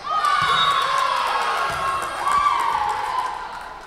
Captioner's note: whistle blowing